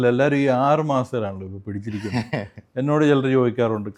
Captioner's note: laughter